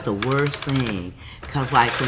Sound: dial turning

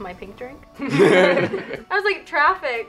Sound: laughs

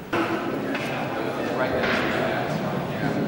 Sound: backround chatter

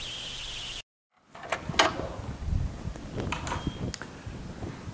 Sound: door opening

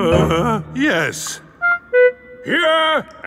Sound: groans

